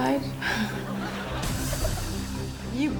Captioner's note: audience laughs